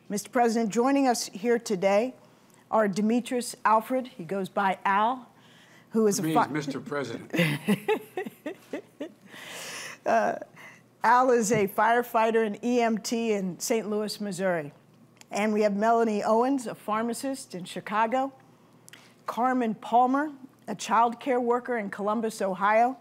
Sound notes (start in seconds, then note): 10.6 laughs